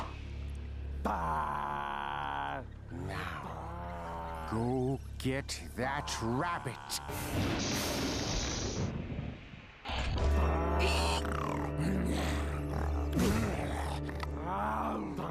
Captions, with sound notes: [growling] NOW, GO GET THAT RABBIT. [gasping] [growling] [growling]